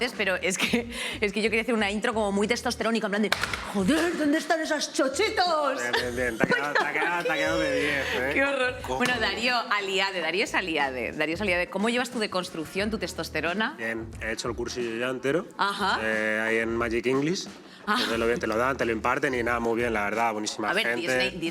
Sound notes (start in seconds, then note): 3.6 manlike voice